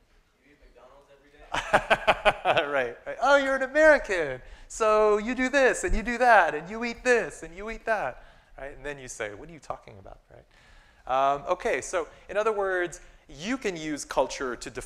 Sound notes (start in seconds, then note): 1.4 laughter